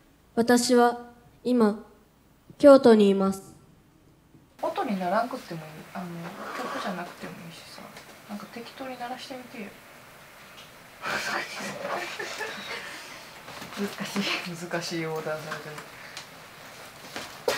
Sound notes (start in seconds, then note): 11.1 laughter